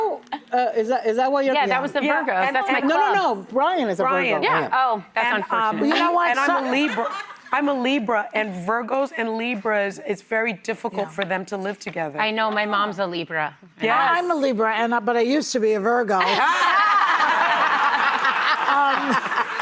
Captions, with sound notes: - Is that what you're doing? - Yeah, that was the Virgo. - No, no, no, Brian is a Virgo, huh? - Oh, that's unfortunate. - And I'm a Libra. I'm a Libra, and Virgos and Libras because it's very difficult for them to live together. I know my mom's a Libra. I'm a Libra, and I'm not but I used to be a Virgo. (audience laughing)